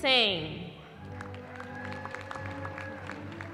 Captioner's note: cheering